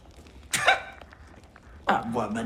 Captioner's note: scoffs